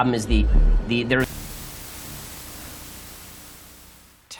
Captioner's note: static